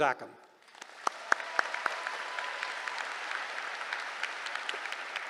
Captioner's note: applause